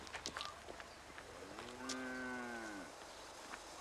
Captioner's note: Sapi moos